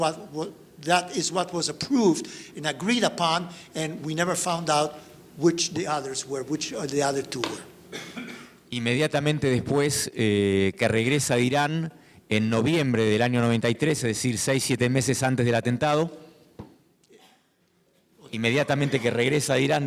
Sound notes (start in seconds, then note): 8.9 speaking in foreign language